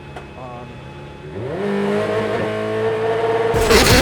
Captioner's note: revving